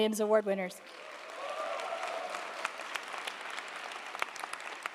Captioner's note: audience applauding